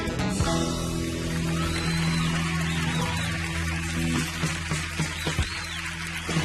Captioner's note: audience cheering and applauding